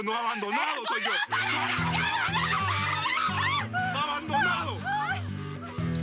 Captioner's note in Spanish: Gritos y exclamaciones